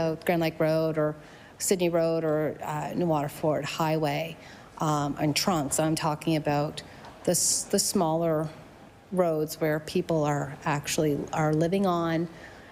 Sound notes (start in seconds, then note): none